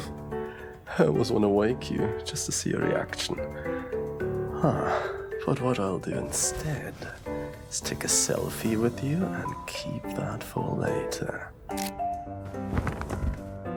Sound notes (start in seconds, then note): 11.7 camera clicks